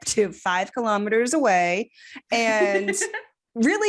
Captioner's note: giggling